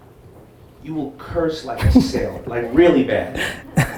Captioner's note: Gary laughs